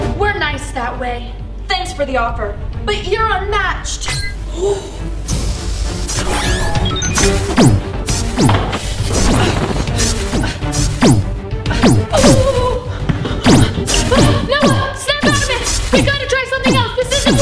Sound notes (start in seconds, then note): 6.2 machine powers up; 7.4 firing